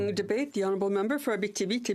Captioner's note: speaking French